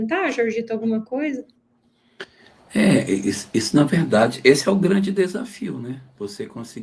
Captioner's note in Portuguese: limpando a garganta